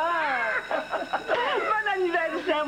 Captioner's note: Rires